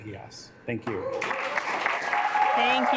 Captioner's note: assembly clapping